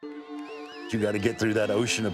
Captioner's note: crowd whistles and cheers